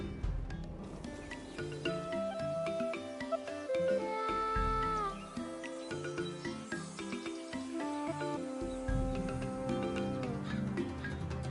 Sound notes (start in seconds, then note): 5.2 birds chirping